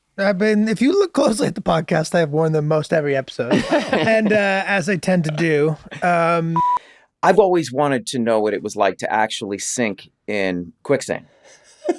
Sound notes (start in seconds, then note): 6.5 beep